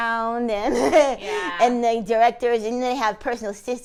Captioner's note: laughs